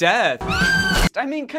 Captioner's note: scream